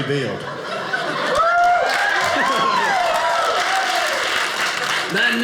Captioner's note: audience applauding